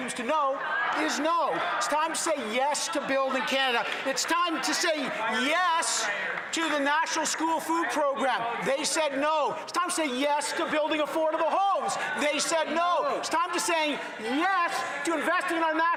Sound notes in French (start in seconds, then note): 0.0 voix de l'interprète; 4.4 voix de l'interprète